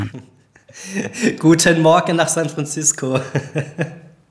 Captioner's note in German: lachend